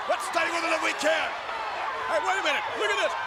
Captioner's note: audience shouting and chattering